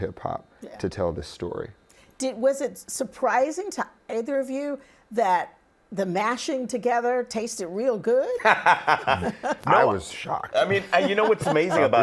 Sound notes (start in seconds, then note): 8.4 laughing